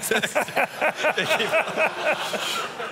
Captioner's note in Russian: смех